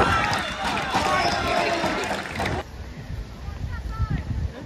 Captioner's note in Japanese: 拍手